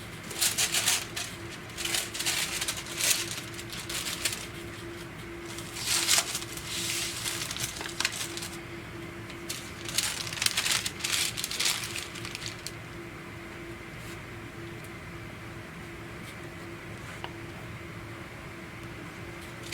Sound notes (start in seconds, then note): 0.3 paper rustling; 13.8 machine whirs